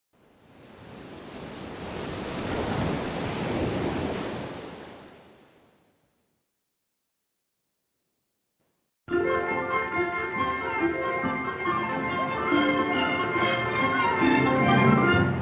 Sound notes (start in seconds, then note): 0.2 waves crashing; 9.1 bright orchestral music